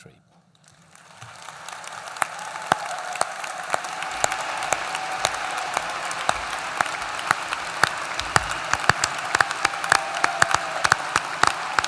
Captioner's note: applause